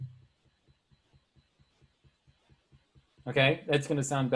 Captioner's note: note ticking